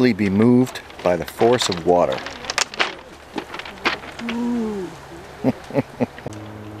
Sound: chuckles

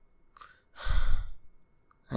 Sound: sighs

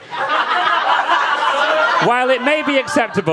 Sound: audience laughing

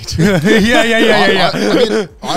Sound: all laughing

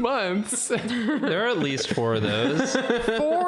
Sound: sock laughs

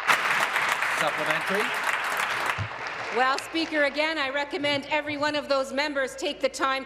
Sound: applause

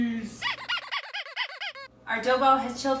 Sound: rubber toy squeaking

